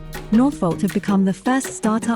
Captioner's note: voiceover